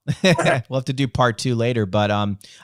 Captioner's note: laughs